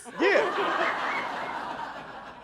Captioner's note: crowd laughing